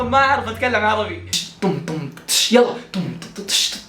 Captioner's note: vocalizes drum beat